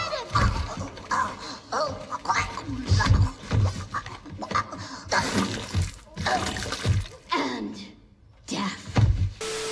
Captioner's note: dying noises